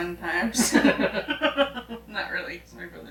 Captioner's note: both laughing